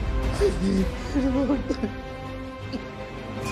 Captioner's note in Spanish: Sollozos